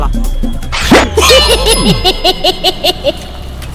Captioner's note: Cycle laughs